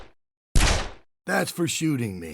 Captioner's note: gunshot